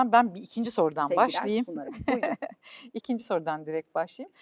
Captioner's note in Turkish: kahkaha